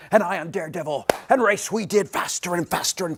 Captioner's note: claps